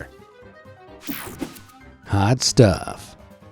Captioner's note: screen whooshing